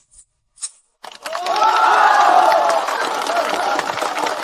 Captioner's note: cheers